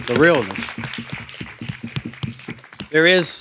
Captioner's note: applause